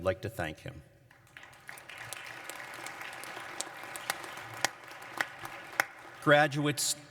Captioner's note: applause